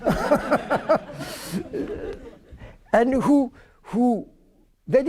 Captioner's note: laughter